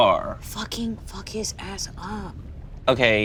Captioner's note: whispering